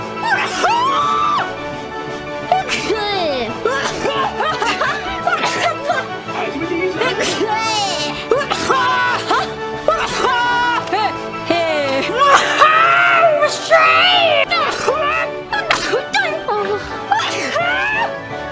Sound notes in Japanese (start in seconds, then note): 0.2 くしゃみ; 12.2 くしゃみ; 14.5 くしゃみ